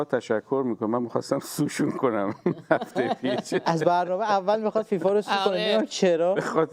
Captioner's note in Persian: خنده